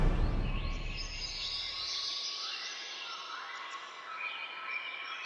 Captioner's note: birds chirping